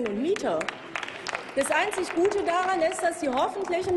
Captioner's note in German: Applaus